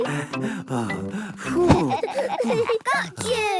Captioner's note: all laughing; panting